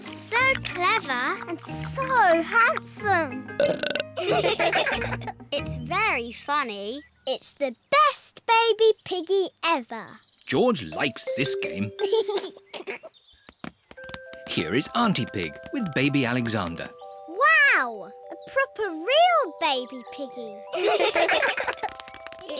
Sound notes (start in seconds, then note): 3.5 burps; 4.2 all laugh; 12.0 giggles; 20.7 all laugh